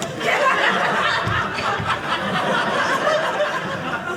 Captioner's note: audience laughing